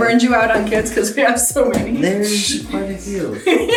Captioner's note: laughing